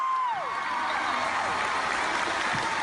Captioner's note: applause